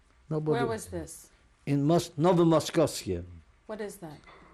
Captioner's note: non-english